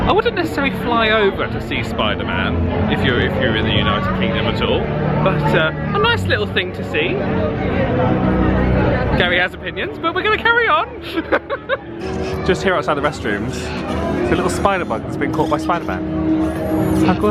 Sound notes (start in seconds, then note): 11.0 laughs